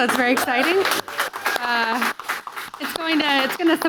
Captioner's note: audience applauding